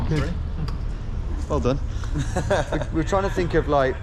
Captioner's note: laughs